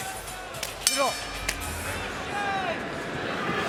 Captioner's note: bell dings